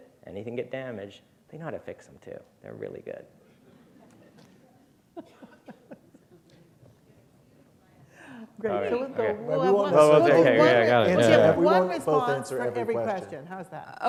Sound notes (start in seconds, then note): 8.0 chuckle